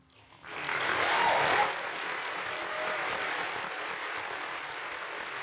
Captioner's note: audience applauding